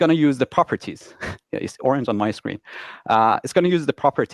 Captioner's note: chuckles